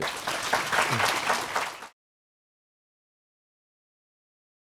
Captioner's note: applause